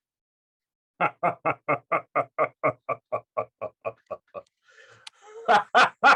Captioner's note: demonic laugh